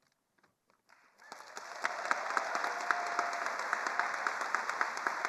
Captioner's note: attendees applauding